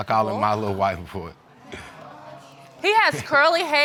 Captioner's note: audience murmuring